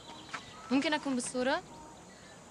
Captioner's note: woman speaks arabic